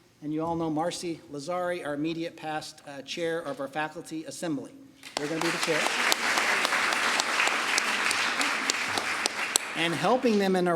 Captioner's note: applause